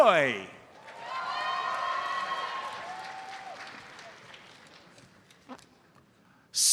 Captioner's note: audience cheers and applauds